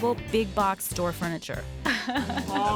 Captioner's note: laughs